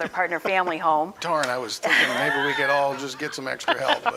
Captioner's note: laughing